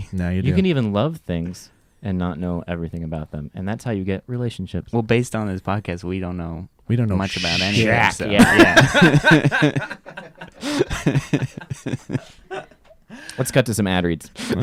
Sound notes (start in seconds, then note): 8.9 laughing